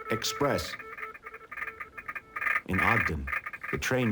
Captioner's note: telegraph beeping